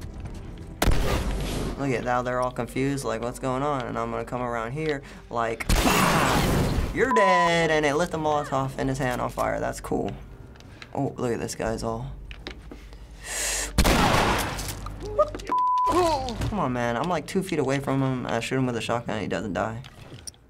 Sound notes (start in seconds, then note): 0.8 explosion; 12.9 inhales sharply; 13.8 gun blasts